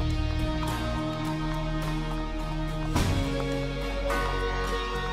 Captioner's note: hooves clomping